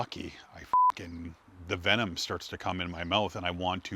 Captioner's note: beep